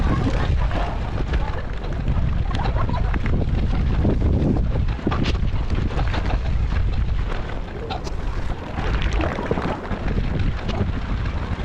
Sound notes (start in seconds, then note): 7.3 wind blowing